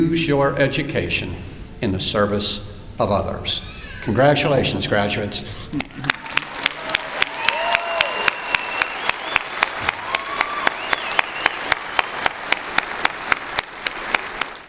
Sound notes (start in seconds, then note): 6.0 applause